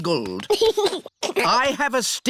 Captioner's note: giggles